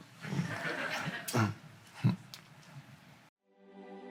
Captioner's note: crowd laughs